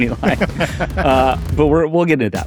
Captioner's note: laughs